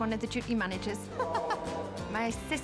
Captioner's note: woman laughing